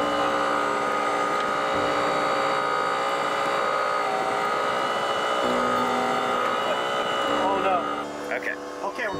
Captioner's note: engine revving